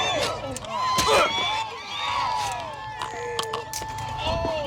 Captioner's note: passengers yelling; sirens approaching